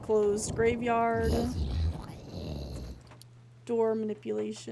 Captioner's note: guttural Noises